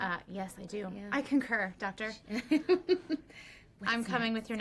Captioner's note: laughing